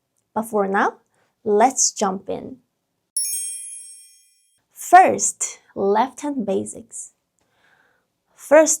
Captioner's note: bell dings